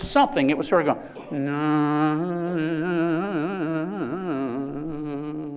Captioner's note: chanting